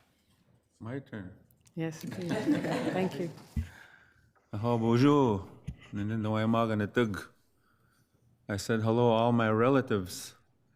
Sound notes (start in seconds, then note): 2.0 regents laughing; 4.6 speaks foreign language